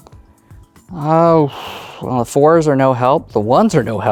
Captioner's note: blows air